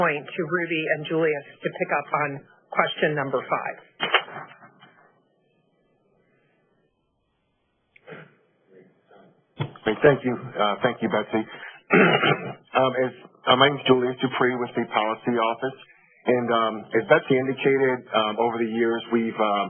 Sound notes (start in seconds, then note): 11.8 clears throat